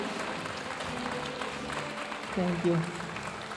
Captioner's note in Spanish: aplausos de la audiencia; hablando en inglés